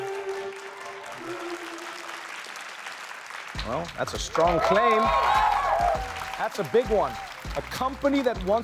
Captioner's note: applause